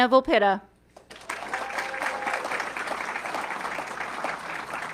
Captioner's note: audience clapping